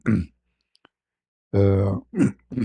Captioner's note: berdehem